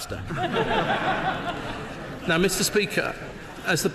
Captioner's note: laughter